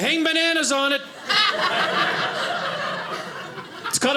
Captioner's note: audience laughing